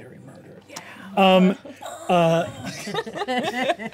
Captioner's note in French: rient; gémit